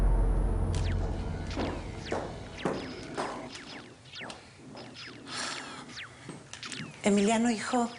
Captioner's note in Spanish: Sonido del videojuego